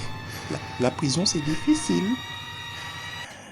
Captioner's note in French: voix apeurée